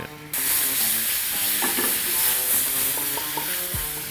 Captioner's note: sauce sizzles